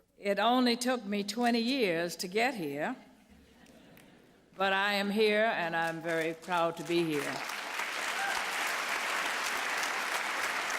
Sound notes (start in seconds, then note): 5.8 applause